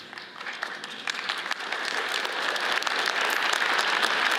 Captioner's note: audience applauds